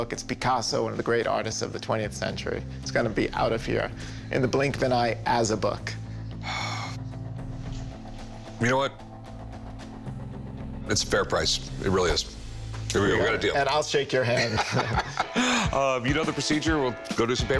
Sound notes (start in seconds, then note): 6.3 sighs; 14.3 laughing